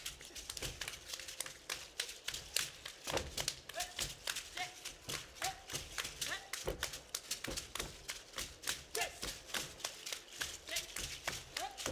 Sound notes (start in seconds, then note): 0.0 hands clapping and beads rattling; 6.1 hands clapping and beads rattling